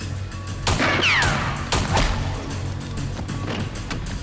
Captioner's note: gun fires